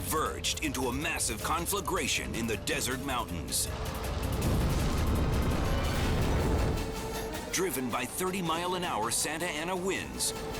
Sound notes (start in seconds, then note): 3.6 fire roaring